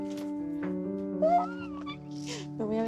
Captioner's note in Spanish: Grito contenido